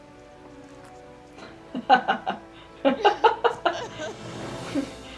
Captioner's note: laughter